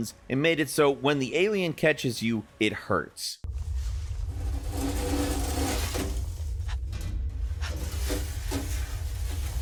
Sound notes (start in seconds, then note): 3.5 metal scraping